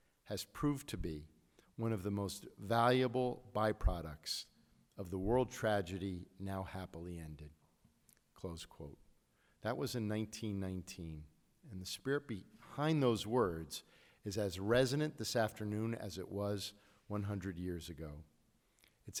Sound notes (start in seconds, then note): none